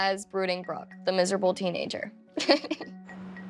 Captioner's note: laughs